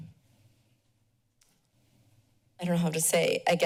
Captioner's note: silence